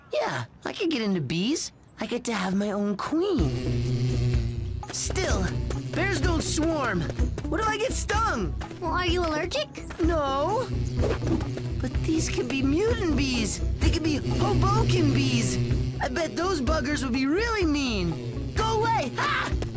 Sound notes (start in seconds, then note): 5.6 buzzing